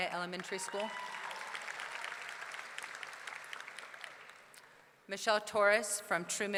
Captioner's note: audience clapping; audience cheering